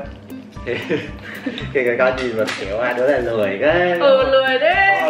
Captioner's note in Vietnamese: cười